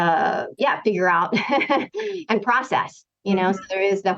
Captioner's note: laughter